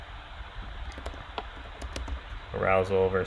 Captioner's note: keyboard clicking